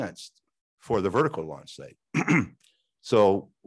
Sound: clears throat

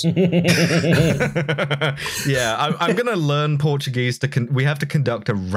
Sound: laughter

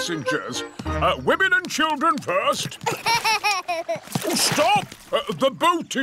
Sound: laughs

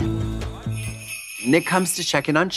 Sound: sleigh bells ringing

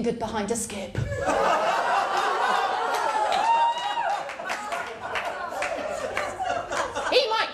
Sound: laughter

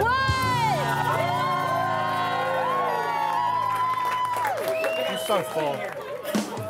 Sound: people cheering and clapping

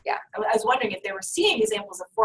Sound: voiceover

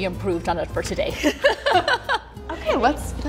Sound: both laughing

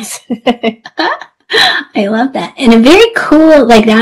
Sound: laughs

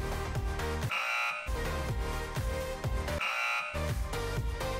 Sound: perky music; buzzer honks

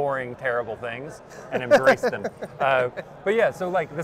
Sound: laughing

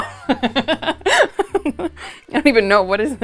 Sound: Natalie laughs

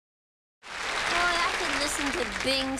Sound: audience applauding

